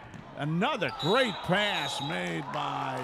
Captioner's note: referee whistling